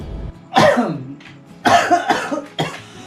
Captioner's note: coughs